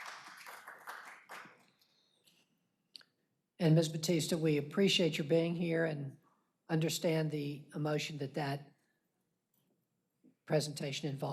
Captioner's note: applause